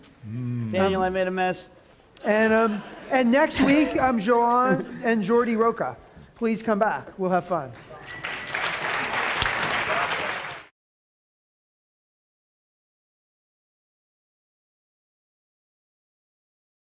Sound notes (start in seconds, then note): 7.9 applause